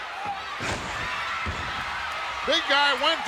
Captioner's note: body thudding